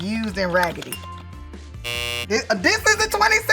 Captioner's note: buzzer sounding